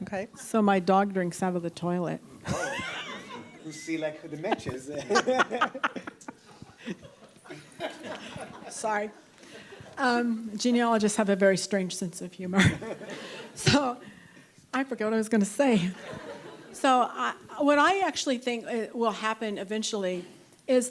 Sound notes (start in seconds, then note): 2.4 audience laughs; 4.4 laughs